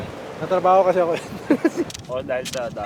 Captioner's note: laughs